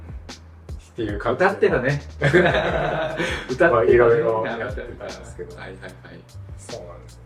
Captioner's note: laughs